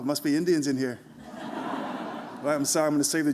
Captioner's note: laughter